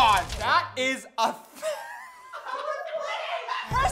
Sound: laughter

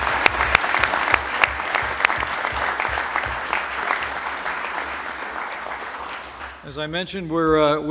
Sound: applause

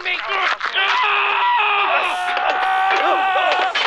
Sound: fighting continues

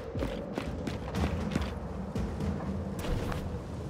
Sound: footsteps

